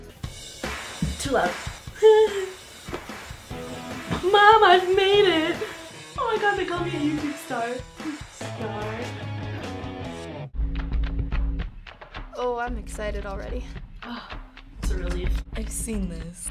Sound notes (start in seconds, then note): 0.2 punk rock music; 1.9 chuckles; 10.6 percussive music